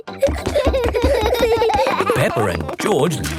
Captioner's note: both giggling